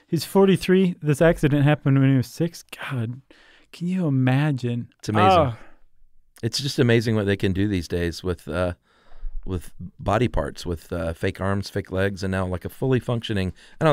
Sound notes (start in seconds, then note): 5.2 moans in disbelief